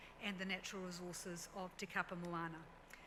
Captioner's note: none